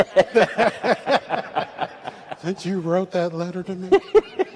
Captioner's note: laughter